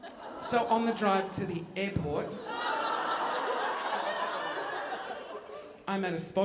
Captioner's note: audience laughing